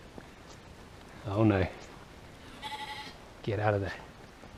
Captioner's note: rogue sheep bleat